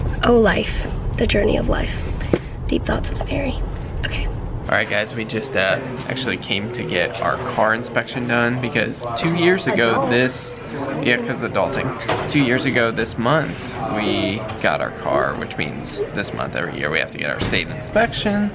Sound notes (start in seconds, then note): none